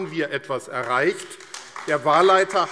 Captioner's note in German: Beifall AfD